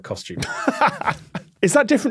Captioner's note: laughs